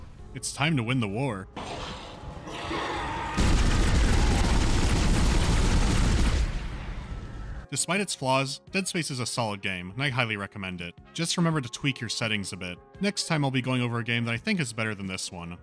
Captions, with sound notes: It’s time to win the war. [bloodthirsty cry] [rapid fire] Despite its flaws, “Dead Space” is a solid game, and I highly recommend it. Just remember to tweak your settings a bit. Next time I’ll be going over a game that I think is better than this one.